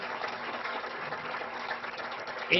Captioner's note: applause